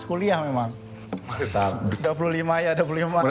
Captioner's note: laughs